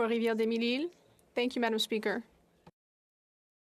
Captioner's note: speaking French